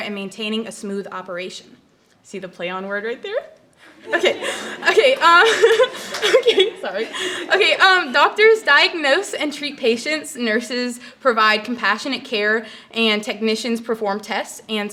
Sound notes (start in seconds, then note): 3.9 audience chuckles; 4.0 laughs